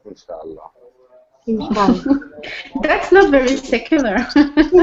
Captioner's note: laughs